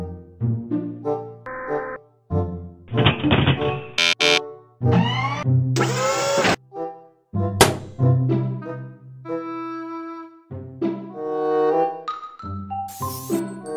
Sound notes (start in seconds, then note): 1.3 whirring, Soft Crashing; 3.8 buzzing, Whirring